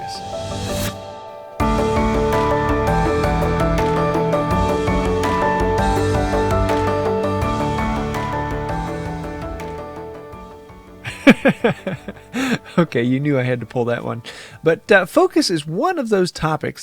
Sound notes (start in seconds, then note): 11.0 giggles